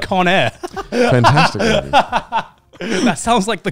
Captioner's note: laughing